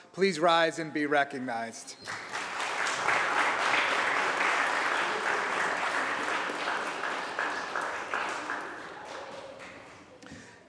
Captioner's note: applause